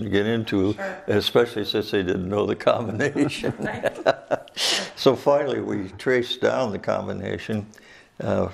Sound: laughs

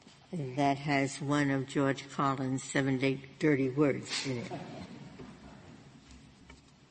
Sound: laughter

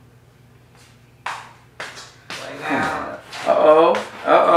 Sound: footsteps approaching

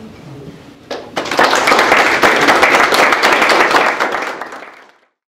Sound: applause

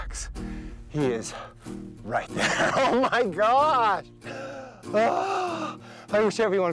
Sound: laughs

